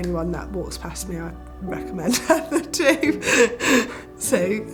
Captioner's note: laughs